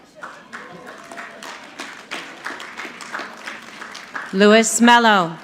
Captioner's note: audience clapping